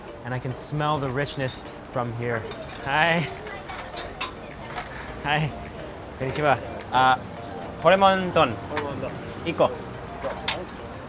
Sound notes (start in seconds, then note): 4.2 speaking in Japanese